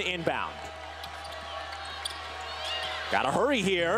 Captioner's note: crowd cheers